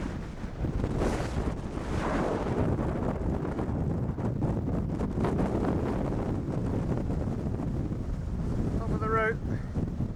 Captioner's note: wind